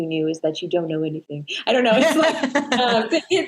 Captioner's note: laughter